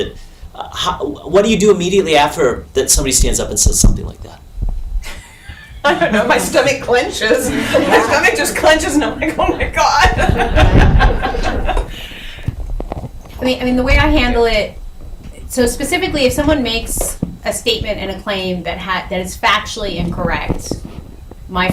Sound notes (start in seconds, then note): 11.4 laughs